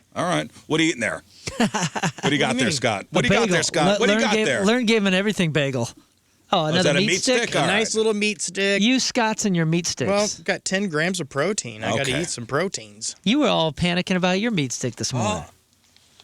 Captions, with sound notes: All right, what are you eating there? (laughing) What do you got there, Scott? What do you got there, Scott? What do you got there? Learn, give, and everything, Bagel. Oh, another meat stick? A nice little meat stick. You, Scott's, and your meat sticks. Well, I've got 10 grams of protein. I gotta eat some proteins. You were all panicking about your meat stick this morning.